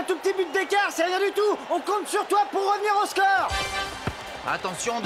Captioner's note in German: beifall